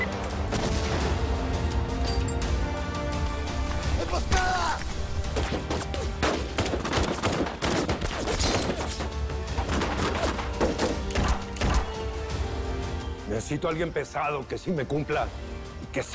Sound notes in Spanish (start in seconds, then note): 0.5 Explosión; 6.1 Disparos